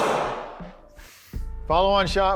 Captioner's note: gun booming